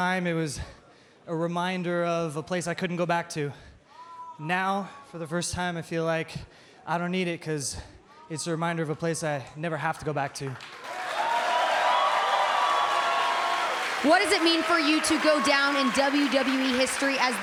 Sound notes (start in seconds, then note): 10.7 crowd cheering